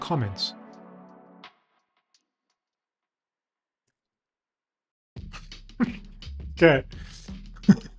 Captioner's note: laughs